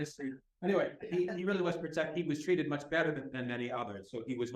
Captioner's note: laughter